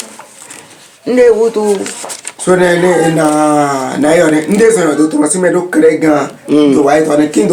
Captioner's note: stammers